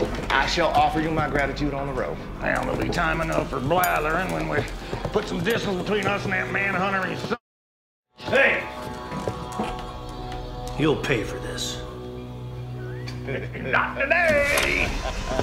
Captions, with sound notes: - I shall offer you my gratitude on the road. - There'll be time enough for blabbering, when we put some distance between us and that man huntering s... . - Hey! You'll pay for this. (both laugh) - Not today!